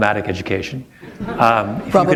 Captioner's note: chuckle